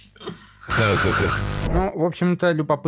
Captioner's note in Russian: Смех на фоне